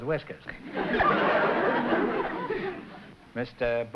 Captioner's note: laughter